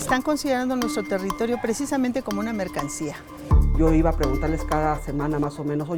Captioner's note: people speaking in foreign language